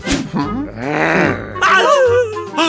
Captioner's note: angry grunts